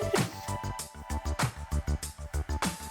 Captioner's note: laughs; upbeat music